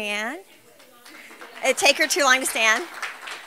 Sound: applause

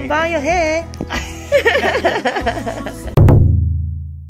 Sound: laughs

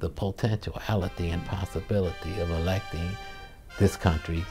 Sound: crowd

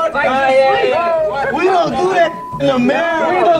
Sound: contestants chattering; beep

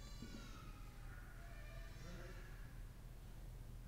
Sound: none

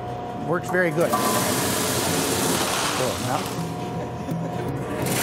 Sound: machine rumbling

